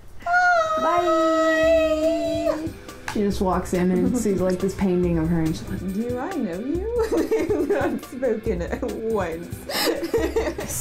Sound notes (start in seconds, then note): 1.1 theme music fades in; 9.6 laughing; 9.7 laughter